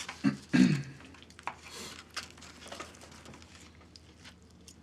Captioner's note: Isaac clears throat